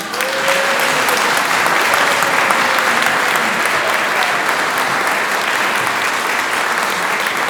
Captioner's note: applause